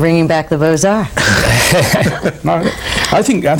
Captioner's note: laughing